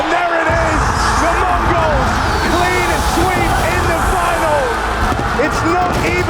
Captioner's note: crowd cheering